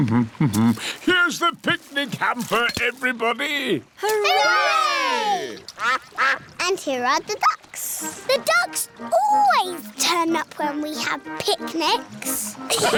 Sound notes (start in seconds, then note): 0.1 hums; 5.7 quacking